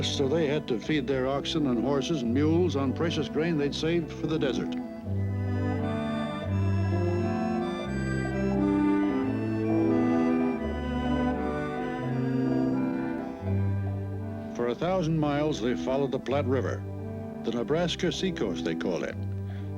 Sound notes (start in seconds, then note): 5.6 orchestral music; 8.5 horse hooves clacking